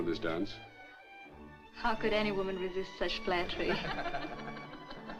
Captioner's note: guests Laugh